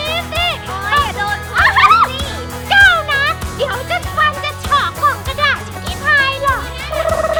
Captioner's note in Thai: หัวเราะ